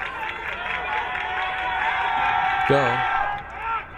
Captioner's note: crowd cheering